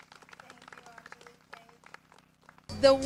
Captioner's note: clapping